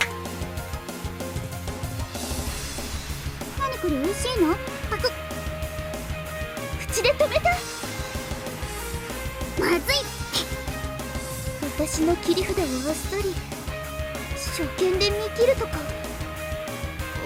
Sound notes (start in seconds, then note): 10.1 spits